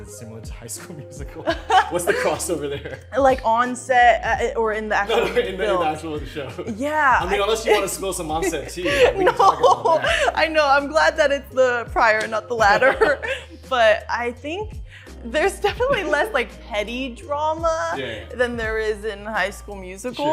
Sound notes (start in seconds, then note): 5.1 laughing; 10.1 laughing